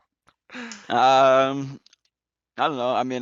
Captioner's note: laughs